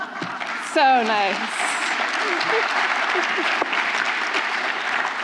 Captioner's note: applause